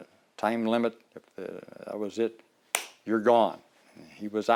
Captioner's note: clap